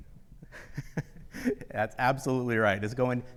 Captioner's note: laughs